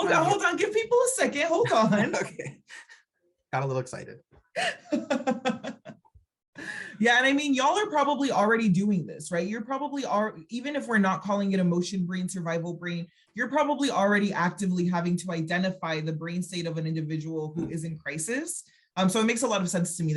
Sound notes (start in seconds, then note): 4.6 laughing